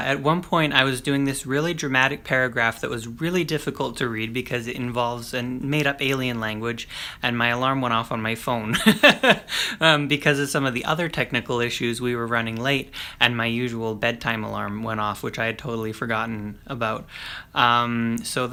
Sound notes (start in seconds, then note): 8.7 laughs